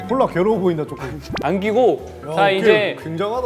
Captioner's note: rubbing